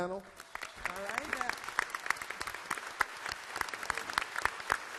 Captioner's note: all clapping